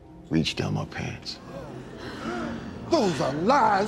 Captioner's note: congregants Gasping